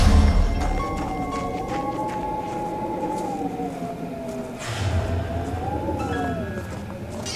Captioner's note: eerie music; wind whistling